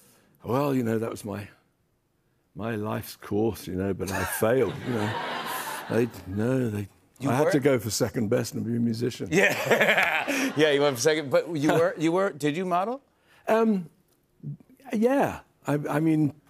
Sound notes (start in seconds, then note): 9.4 laughs